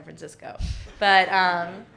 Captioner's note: audience laughing